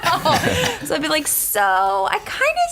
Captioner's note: laughter